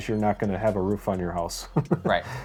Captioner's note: laughs